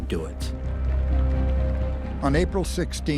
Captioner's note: applause